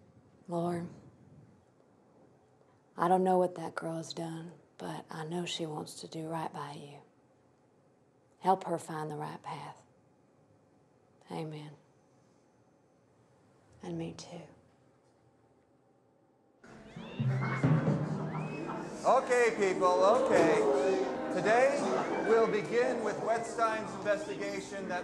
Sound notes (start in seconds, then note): 16.7 ominous drumming; 17.0 students chattering